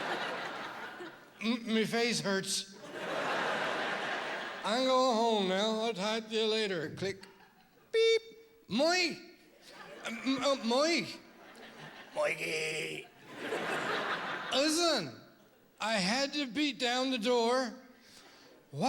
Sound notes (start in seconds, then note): 0.0 laughter; 6.5 click; 13.0 laughter